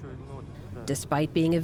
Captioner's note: through translator